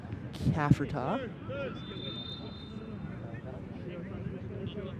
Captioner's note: whistle blows